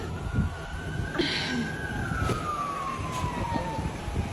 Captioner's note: sirens wail